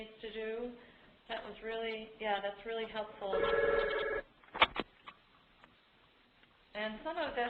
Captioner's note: phone rings